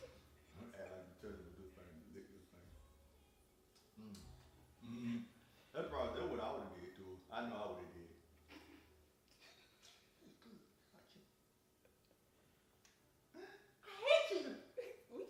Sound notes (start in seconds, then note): 3.8 smacks lips